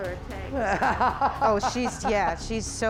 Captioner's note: laughs